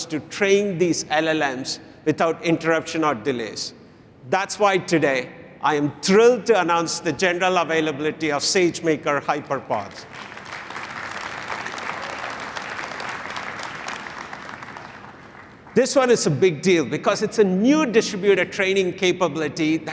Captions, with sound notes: to train these LLMs without interruption or delays. That's why, today, I am thrilled to announce the general availability of SageMaker HyperPod. [applause] This one is a big deal, because it's a new distributed training capability